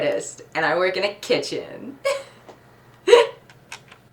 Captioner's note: laughs